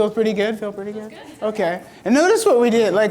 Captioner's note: voiceover